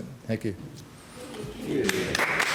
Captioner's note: applause